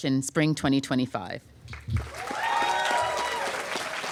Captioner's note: applause